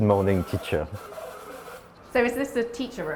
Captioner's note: robot trilling